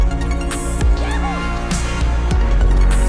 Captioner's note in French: il crie de joie